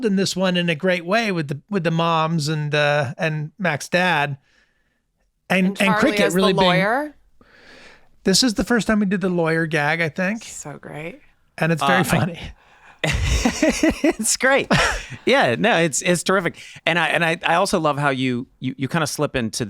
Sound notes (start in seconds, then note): 13.0 Glenn laughing